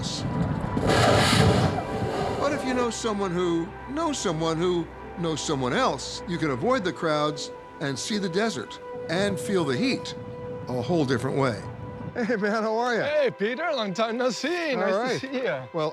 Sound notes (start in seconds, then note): 1.0 gushing sound